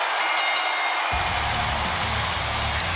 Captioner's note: bell ringing